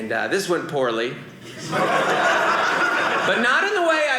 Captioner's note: audience laughing